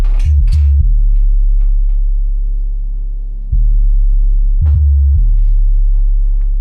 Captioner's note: tense music; items clink